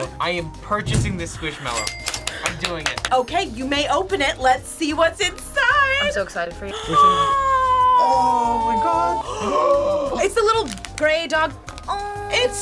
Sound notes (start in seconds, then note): 1.9 claps; 9.2 both gasp